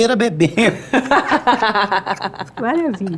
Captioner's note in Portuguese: risos